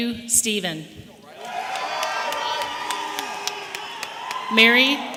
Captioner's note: audience applauding and cheering